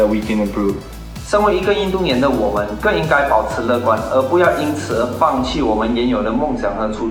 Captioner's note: speaking in foreign language